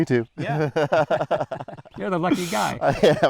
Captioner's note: both laugh